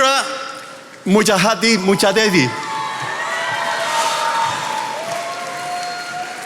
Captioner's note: attendees applauding